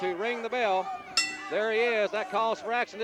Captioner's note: bell dinging